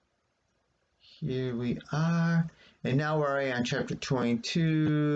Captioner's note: whispers; resumes regular voice